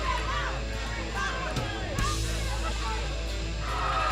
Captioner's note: crowd cheering